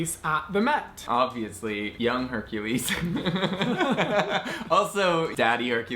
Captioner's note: laughing